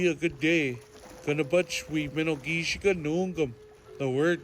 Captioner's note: speaking Ojibwe language